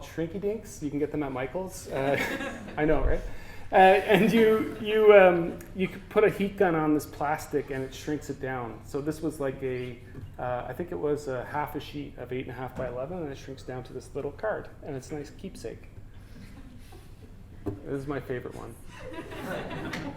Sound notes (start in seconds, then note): 2.0 audience: Laughter; 18.9 audience: Laughter